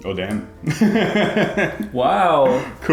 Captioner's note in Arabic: يضحك